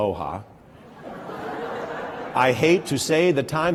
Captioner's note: laughter